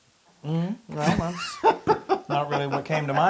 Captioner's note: laugh